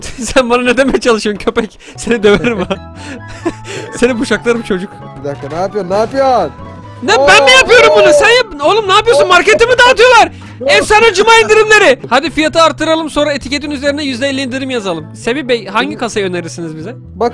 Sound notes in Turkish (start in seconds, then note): 2.1 Gülerek